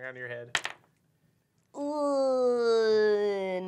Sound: die clacks

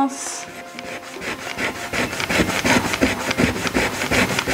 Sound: eraser rubbing

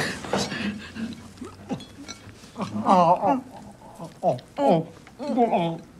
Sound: gulping, guzzling sounds

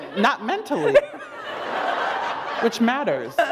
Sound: laughter

